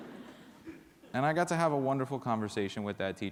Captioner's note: laughter